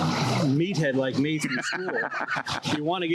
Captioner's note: laughs